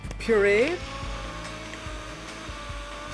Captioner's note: soft whirring